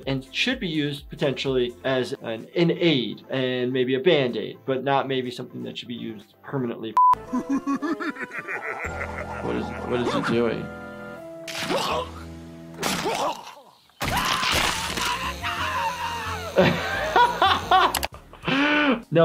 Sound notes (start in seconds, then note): 7.2 green bear chuckling; 11.7 moose groaning; 14.3 moose shouting; 16.7 laughing